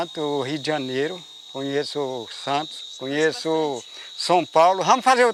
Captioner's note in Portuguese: Sons de insetos no mato